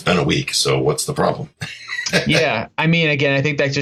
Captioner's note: laughs